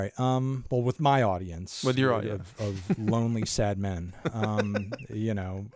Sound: laughs

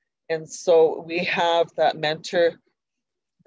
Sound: none

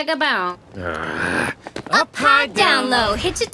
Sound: vocalizing; groaning

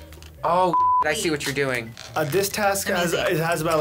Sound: beep

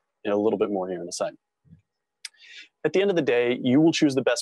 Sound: none

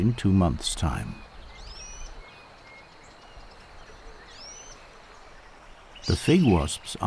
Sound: birds chirping

